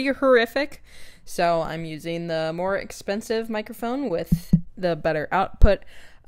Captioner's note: tap tap